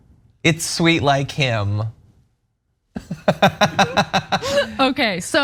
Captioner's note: laugh